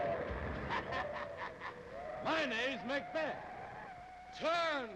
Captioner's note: laughs